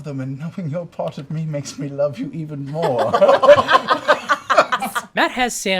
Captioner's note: laughter